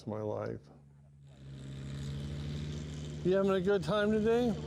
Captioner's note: engines rumbling